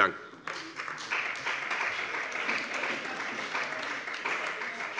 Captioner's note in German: Beifall bei dem BÜNDNIS 90/DIE GRÜNEN und der CDU